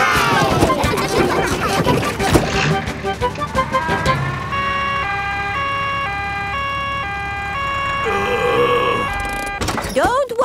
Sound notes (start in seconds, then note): 0.6 giggling; 5.1 siren wailing; 8.0 groaning